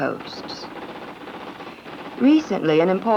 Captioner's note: electric typewriter clicking